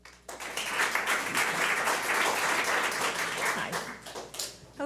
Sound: public applauding

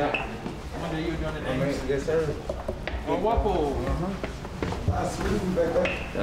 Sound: chatter

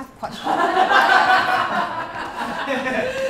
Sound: laughter

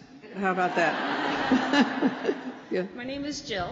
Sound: laughter

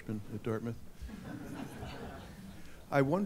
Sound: audience giggling

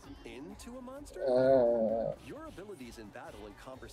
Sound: disgruntled noise

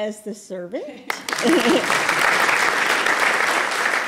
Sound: applause

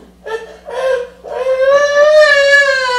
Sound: child crying

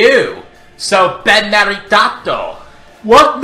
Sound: in Italian

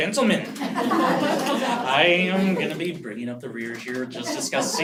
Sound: laugh

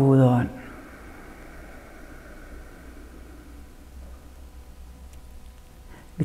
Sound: exhales

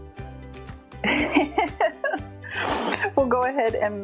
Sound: laughing

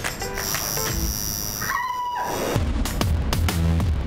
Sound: tattoo machine roaring; Moniece screaming; upbeat music

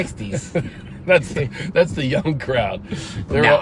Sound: laughs

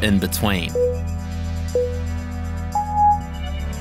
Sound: timer beeping

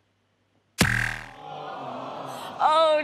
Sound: thud

